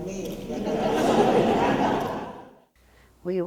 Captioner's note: laughter